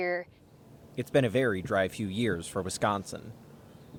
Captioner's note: voice-over